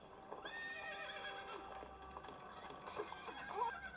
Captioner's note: horse neighing